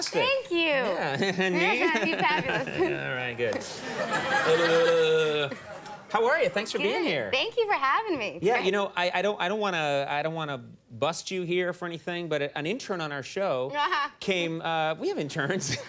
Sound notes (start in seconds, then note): 1.0 chuckles; 4.0 crowd laughs; 13.8 Mila laughs